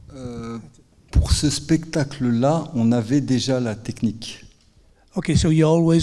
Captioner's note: speaking in French